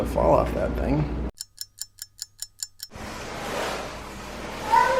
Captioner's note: clock ticks